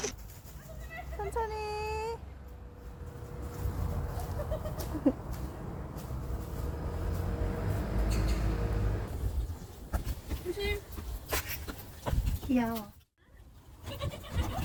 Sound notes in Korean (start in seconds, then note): 4.2 이모의 유쾌한 웃음소리 🤣